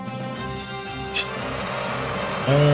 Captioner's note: scoffs; audience cheering